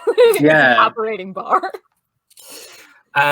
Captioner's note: laughter